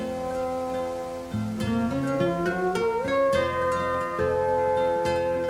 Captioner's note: leaves rustling